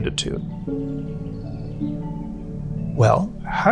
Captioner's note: soft music; birds chirping